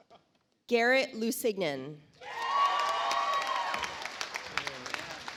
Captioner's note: audience applauds